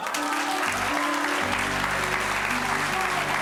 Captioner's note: audience cheering